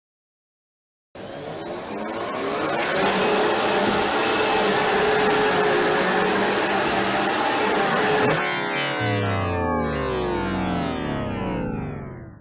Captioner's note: vaccum Cleaner Sound Effect